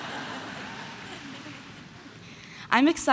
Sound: audience laughing

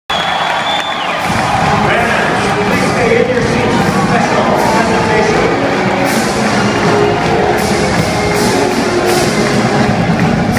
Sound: Cheering and USU Fight Song

